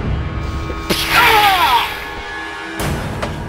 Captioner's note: pshaaa!